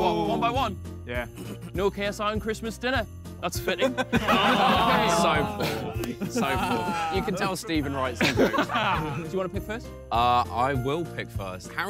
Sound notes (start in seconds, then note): 0.0 upbeat Christmas music; 3.8 all laughing